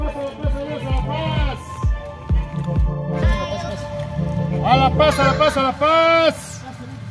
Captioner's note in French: Homme criant "La Paz!!!"